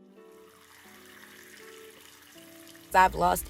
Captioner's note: water splashing